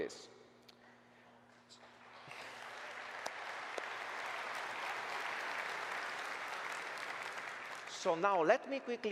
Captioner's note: applause